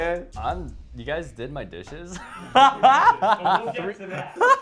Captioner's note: laughs